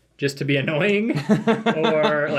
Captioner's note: laughs